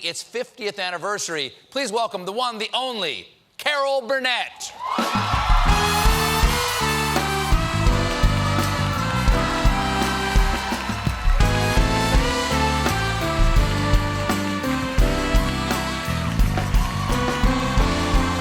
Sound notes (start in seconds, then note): 5.0 applause